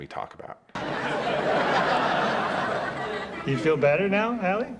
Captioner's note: audience laughs